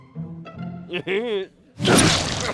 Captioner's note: chuckles